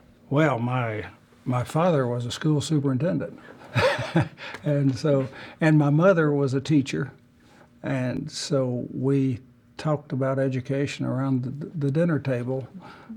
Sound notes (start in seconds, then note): 3.5 laugh